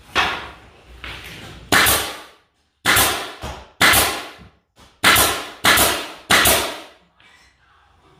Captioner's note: nail gun shots